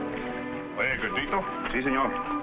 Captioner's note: speaking in foreign language